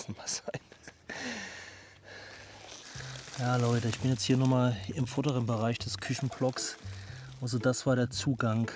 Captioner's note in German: japst